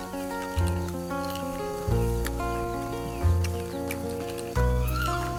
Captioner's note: peaceful music; chimp chewing